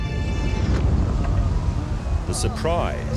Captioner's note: men wailing